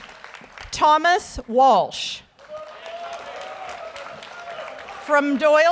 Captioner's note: audience applauds